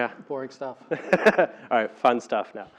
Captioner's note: laugh